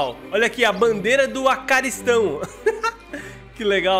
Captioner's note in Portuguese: risos